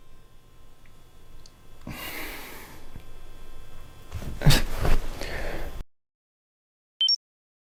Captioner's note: man sighing